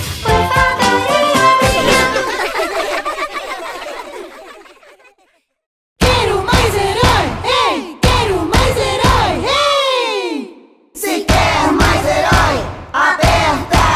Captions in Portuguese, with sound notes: Por favor e obrigado (Risos)